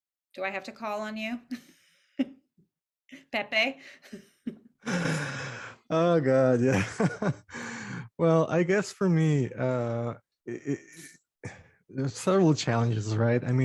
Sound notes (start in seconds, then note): 1.6 chuckles; 4.8 sighs and chuckles